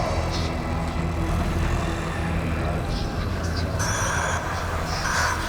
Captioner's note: low demonic chatter